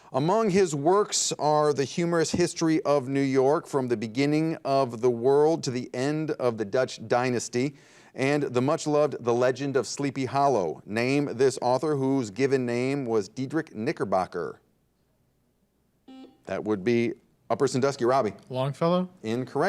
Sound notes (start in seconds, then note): 16.0 buzzer dings